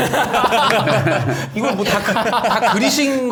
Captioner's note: laughing out loud